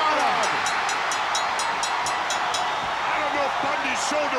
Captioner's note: bell rings